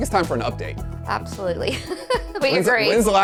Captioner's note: laughs